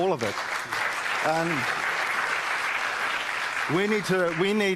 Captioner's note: applause